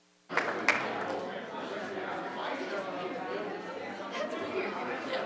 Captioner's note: group quietly conversing